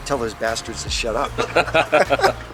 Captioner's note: laughs